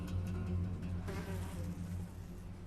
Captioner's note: fly buzzing